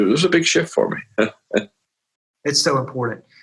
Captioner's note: chuckles